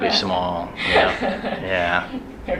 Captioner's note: laughs